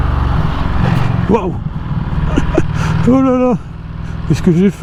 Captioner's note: chuckles